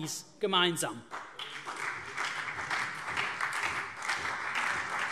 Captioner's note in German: Beifall CDU, BÜNDNIS 90/DIE GRÜNEN und SPD